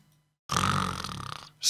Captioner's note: snores